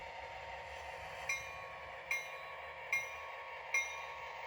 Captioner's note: here come the bells